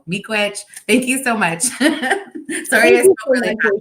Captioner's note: chuckles